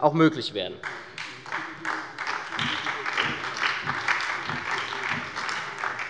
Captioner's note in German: Beifall bei der SPD